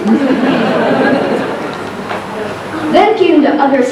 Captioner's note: laughter